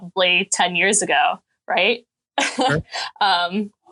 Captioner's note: chuckling